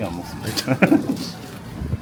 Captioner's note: chuckles